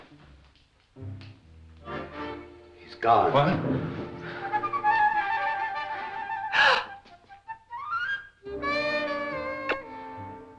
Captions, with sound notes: - He's gone. - What? (lighthearted music) (Laura gasps) (sultry music) (kissing sound)